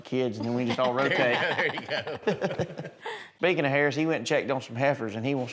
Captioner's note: laughter